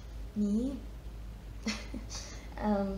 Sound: chuckles

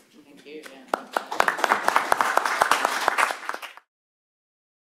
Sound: applause

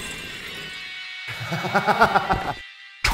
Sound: laughter

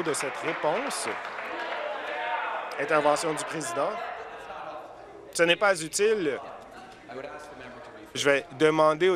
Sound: applause

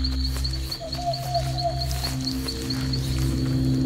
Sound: scrunching; chirping and hooting; deep hum with chirping and hooting

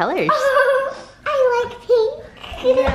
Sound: laughs excitedly

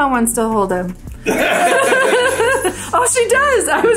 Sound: group laughing

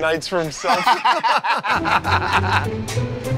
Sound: laughter

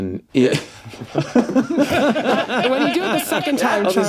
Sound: all laugh

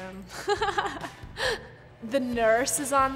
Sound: chuckling

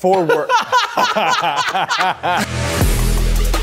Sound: actors laughing; upbeat electronic music beginning

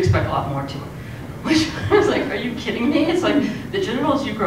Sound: laugh

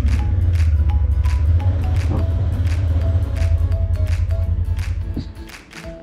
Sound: motorcycle sound

